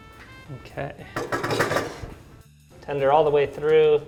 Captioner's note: pan clatters